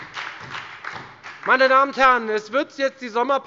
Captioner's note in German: Beifall bei der FDP und bei Abgeordneten der SPD